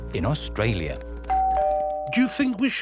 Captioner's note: doorbell rings